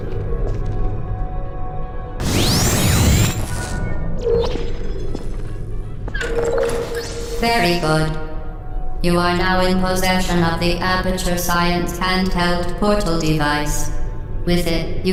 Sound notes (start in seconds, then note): none